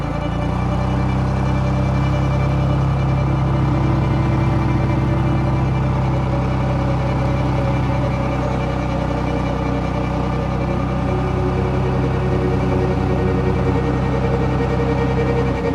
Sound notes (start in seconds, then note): 1.4 engine humming; 1.4 intense music